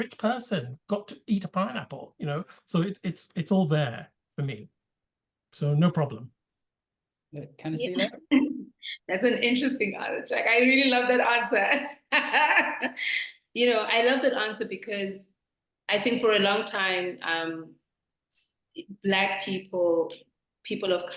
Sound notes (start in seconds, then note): 12.0 laughter